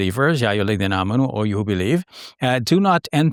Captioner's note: speaking Arabic